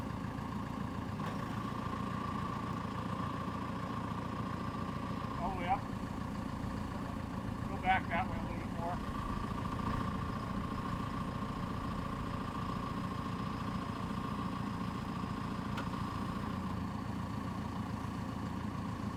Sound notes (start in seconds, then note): 10.5 truck whirring